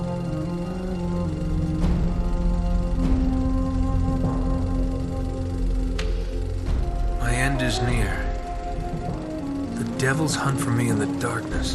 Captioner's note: in-game audio